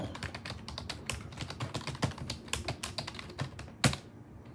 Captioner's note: even more typing